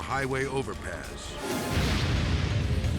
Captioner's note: flames exploding; dramatic music